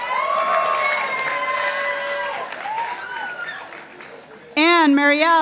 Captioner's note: participants applauding